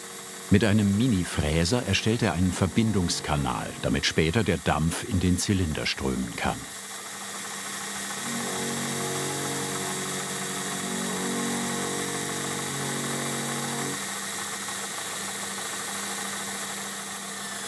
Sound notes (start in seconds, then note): 6.9 whirr, hum